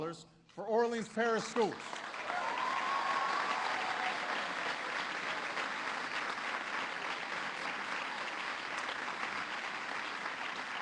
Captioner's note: applause